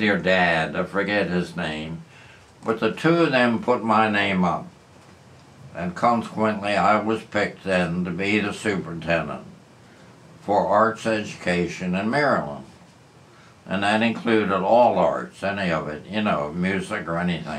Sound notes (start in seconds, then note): none